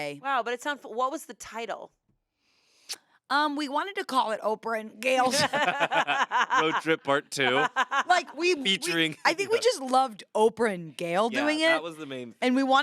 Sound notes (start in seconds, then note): 5.2 everyone laughs